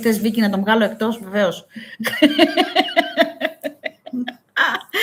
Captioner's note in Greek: γέλια